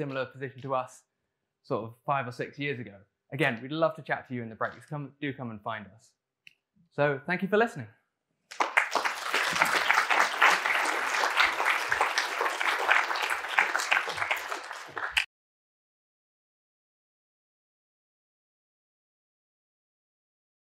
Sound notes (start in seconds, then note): 13.1 applause